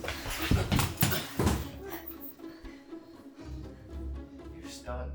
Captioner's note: man thuds